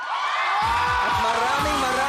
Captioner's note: crowd cheering